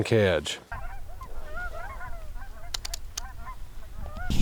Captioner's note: birds calling